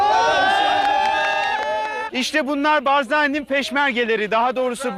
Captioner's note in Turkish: enthusiastic cheering